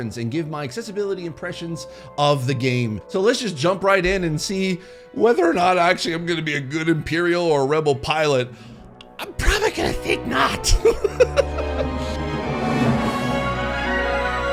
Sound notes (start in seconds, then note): 9.4 laughs; 11.7 dramatic music